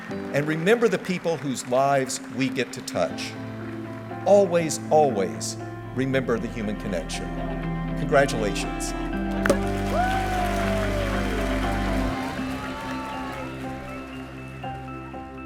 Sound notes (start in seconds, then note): 9.4 champagne cork popping; 9.5 people clapping and cheering; 12.2 light piano music